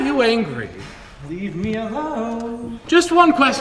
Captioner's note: laughs; in a sing-songy voice